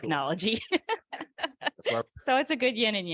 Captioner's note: chuckles